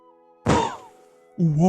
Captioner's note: poof